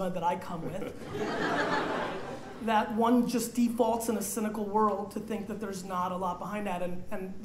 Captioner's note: laughter